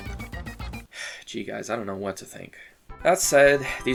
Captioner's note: sigh